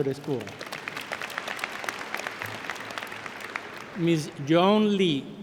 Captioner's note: applause